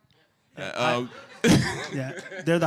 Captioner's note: laughter